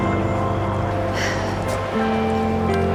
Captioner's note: Helen sighs